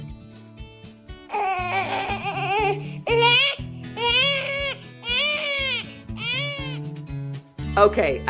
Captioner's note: baby crying